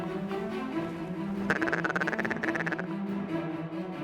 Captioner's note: duck calls